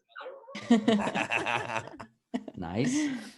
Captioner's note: all laugh